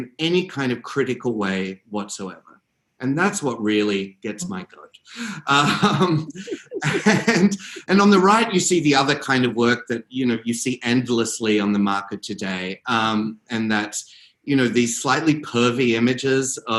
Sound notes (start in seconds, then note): 5.6 laughs